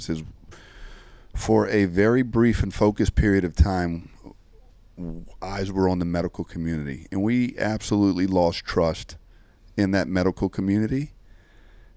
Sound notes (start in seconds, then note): none